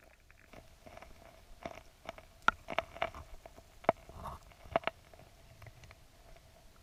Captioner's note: stones rustling